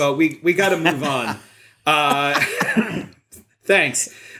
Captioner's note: laughter